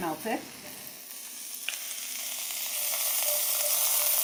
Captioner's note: butter sizzling